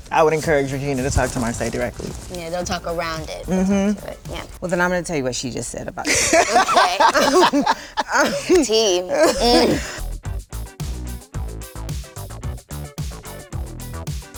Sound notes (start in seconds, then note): 6.0 Issa laughs; 6.0 group laughs; 10.3 upbeat techno music